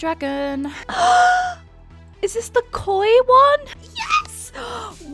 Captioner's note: gasps